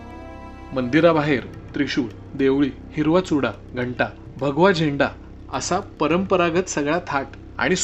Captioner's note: bells